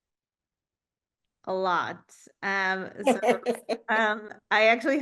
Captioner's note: laughs